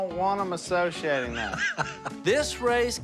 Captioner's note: laughs